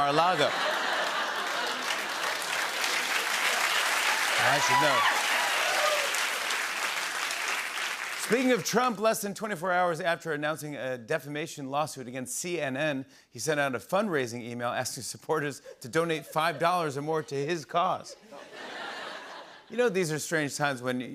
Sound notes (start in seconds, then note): 0.0 laughter and applause; 5.6 cheers and applause; 18.1 laughter